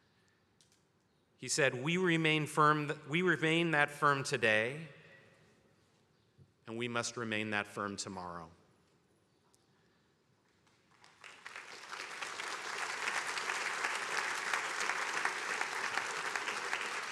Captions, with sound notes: He said, "We remain that firm today, and we must remain that firm tomorrow." (attendees applauding)